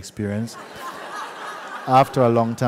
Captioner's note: laughter